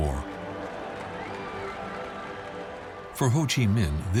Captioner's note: cheering